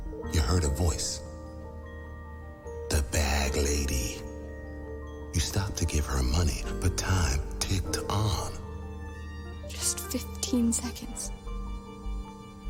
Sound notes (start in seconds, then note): none